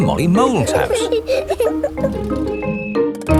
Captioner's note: children giggling